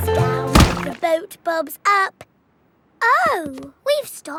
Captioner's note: thuds